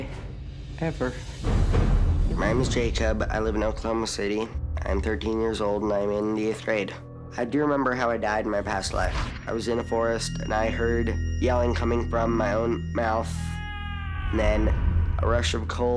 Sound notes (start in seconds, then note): 13.4 screaming